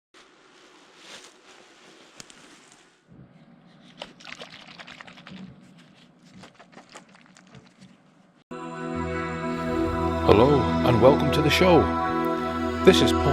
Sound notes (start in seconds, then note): 3.8 sounds of a bottle being shaken